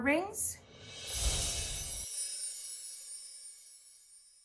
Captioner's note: windchimes ring